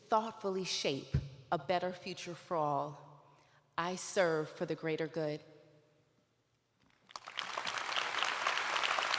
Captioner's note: applause